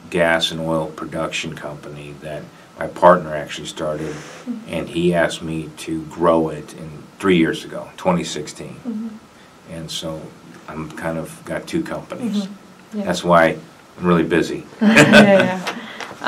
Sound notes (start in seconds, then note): 14.8 laughs